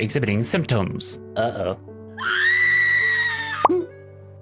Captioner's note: screaming